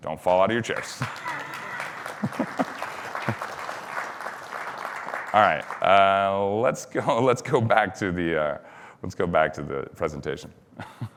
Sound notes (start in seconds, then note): 0.3 applause; 1.0 chuckles; 10.5 laughs